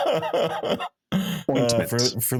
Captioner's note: laughing